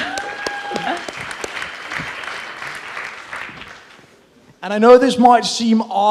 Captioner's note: audience applauds and cheers